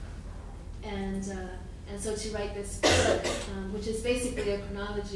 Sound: coughing

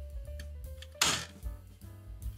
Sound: loud sound from the door

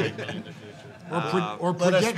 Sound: laughs

